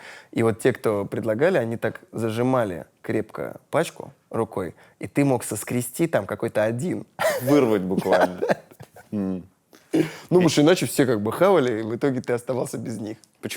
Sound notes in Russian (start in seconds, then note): 7.2 смеется